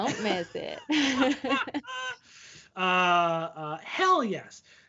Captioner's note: laughing